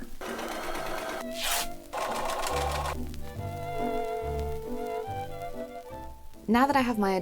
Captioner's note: sewing sounds